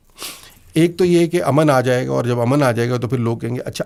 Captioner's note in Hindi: नाक से की जाने वाली आवाज़